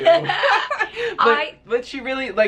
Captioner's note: laughter